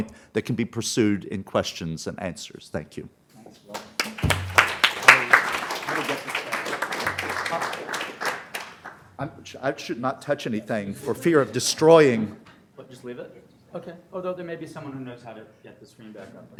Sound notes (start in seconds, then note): 3.7 applause